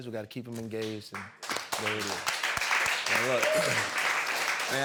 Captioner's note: applause